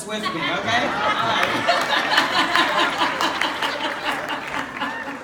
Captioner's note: laughter